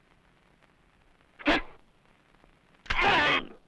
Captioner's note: non-english speech